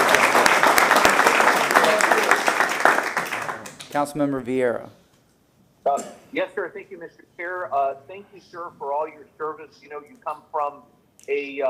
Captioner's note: applause